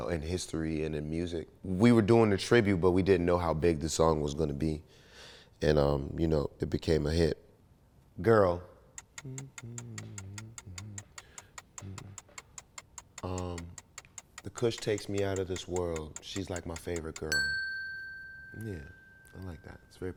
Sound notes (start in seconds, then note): 17.4 bell dings